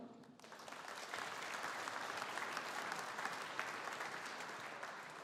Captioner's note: audience applauding